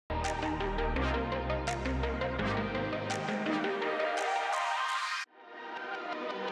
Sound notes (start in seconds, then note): 0.1 upbeat electronic music; 1.4 rhythmic fingers snapping